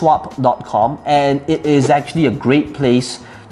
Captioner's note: air whooshing